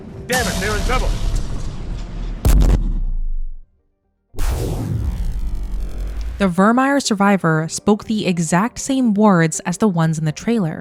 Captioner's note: Dreadnought explodes